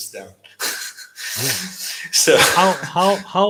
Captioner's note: chuckles